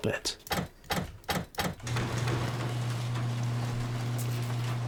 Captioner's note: machine rattling